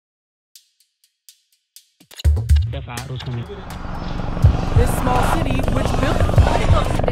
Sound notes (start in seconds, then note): 0.6 intense percussive music; 3.2 crowd chants; 4.1 helicopter rumbles